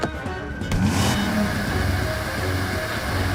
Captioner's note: engine revving